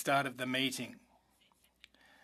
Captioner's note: speaking French